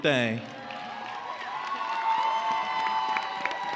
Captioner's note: cheers and applause